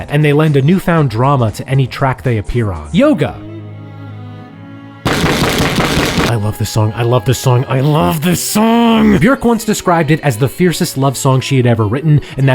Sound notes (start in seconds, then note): 2.7 gentle music; 5.1 fist bangs